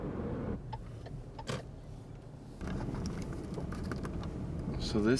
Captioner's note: blinker clicking